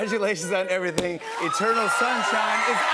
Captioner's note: cheers and applause